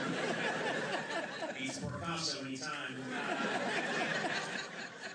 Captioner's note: laughter